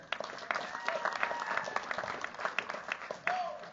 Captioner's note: cheers, applause